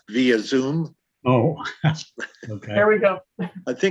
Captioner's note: laughing